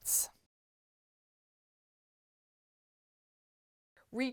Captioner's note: no Sound Present